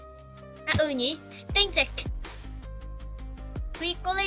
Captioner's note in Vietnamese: Tiếng Pháp